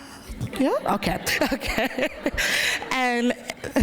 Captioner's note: laughter